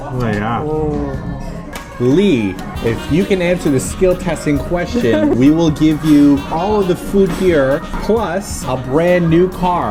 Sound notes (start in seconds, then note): 4.9 laughs